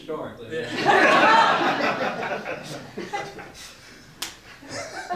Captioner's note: audience laughs